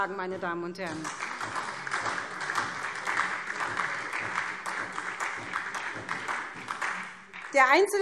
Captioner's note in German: Beifall SPD und vereinzelt Freie Demokraten